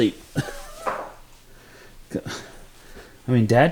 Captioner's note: chuckling